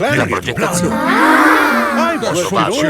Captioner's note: children gasp in awe